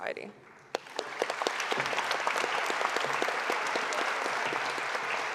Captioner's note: audience applauding